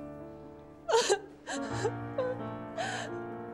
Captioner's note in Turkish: Ağlıyor